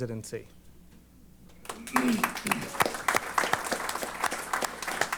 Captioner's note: applause